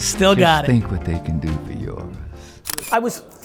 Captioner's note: camera clicks